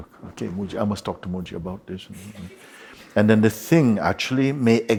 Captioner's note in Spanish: Risa suave